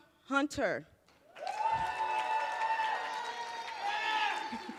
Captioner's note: cheers, applause